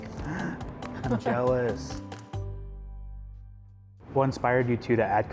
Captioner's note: gasp